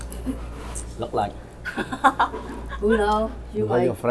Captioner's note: laughs